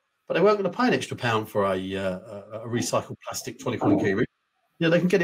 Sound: speaks faintly

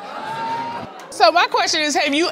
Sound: audience exclaiming

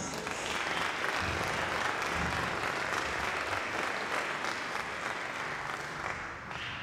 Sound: applause

